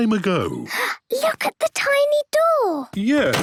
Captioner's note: gasps